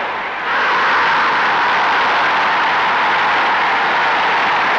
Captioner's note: crowd roaring